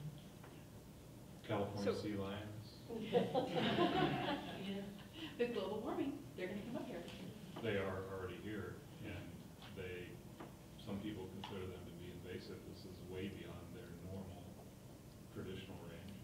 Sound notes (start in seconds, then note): 2.9 people laughing